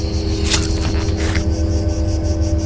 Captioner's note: bloody knife cutting sound